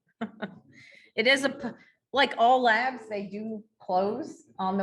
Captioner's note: laughing